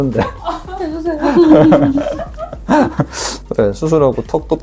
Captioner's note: laughter